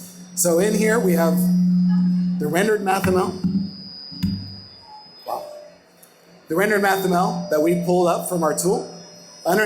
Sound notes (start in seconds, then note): 0.0 microphone distortion